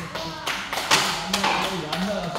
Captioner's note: applause